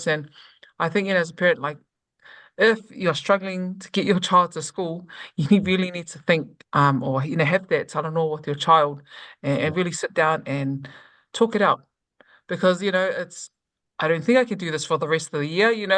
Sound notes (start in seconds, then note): 9.3 conversation